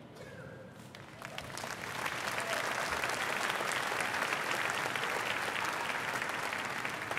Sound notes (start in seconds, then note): 5.4 applause